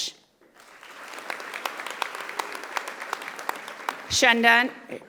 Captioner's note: audience applauding